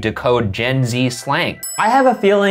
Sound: ding

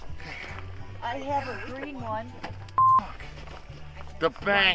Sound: beep

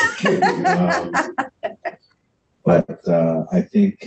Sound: laughs

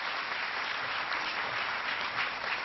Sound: applause

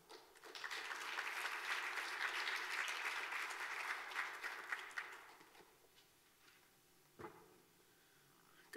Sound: clapping

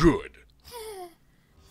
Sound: whew

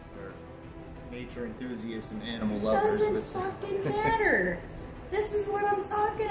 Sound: speaking angrily

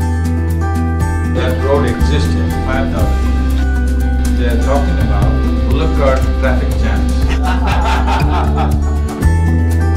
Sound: laughter

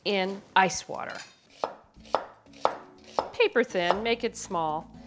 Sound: knife chopping

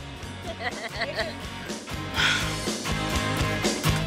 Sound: laughter

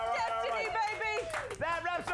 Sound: audience cheers

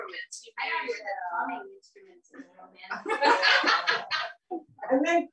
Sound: laughter

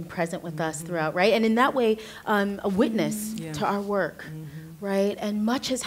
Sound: others agreeing

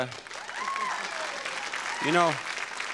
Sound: applause

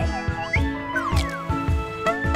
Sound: splash; boing

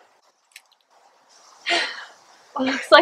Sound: woman sighs out of breath

